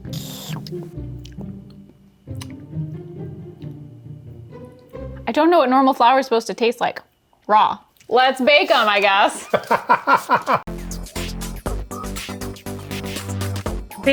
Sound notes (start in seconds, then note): 0.1 upbeat music; 9.4 laughing; 10.6 upbeat music